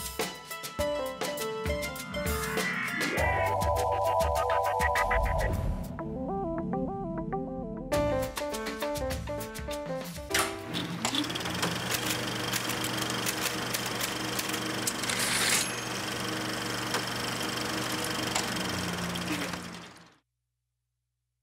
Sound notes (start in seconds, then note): 10.3 projector clicking; 11.7 typing; 15.0 typewriter ding; 18.6 projector dies